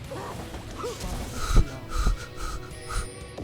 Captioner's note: sound of wind blowing